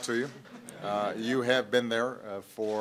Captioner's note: laughter